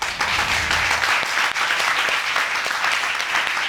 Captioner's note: audience applauding